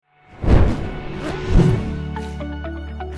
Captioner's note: dramatic transition; bright music